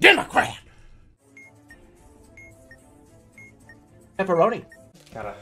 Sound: time bomb beeping

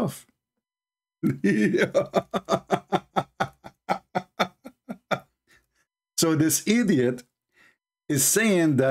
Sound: Ketawa

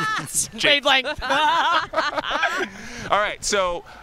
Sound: laughter

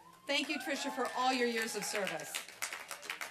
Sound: applause

